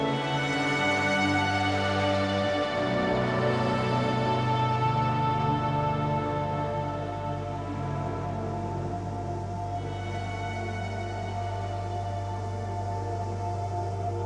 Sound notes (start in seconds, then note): 6.2 ambient music; 6.2 white noise